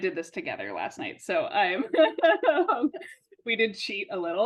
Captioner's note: everyone laughing